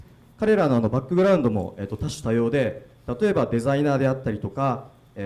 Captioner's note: speaking foreign language